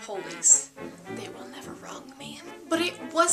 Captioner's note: quietly